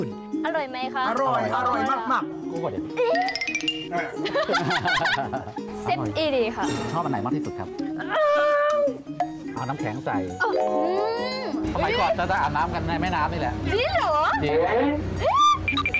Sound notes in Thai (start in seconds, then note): 3.9 เสียงหัวเราะ; 8.0 เสียงร้อง; 14.7 เสียงร้อง